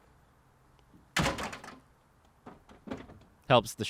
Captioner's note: car seat crashes down